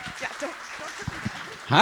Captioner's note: audience applauding